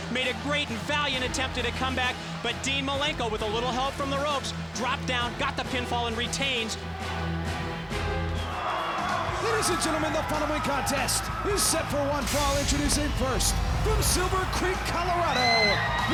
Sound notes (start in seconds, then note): 6.8 dramatic music; 8.8 crowd cheering